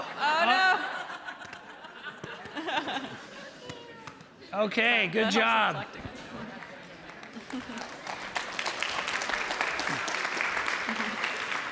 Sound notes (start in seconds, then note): 0.0 audience laughing; 6.5 audience applauding